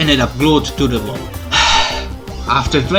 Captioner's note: sigh